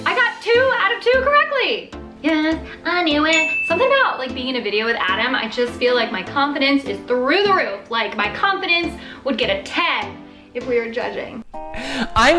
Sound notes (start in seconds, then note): 3.3 bell ringing